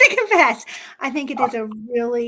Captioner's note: laughs